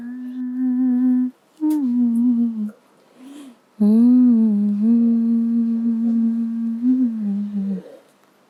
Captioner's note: Taaji' s humming